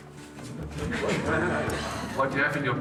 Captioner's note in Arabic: يضحك المراسلون